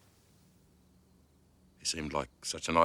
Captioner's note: none